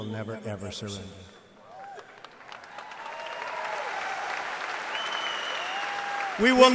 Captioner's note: applause